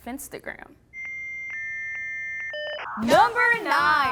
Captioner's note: ominous dial tone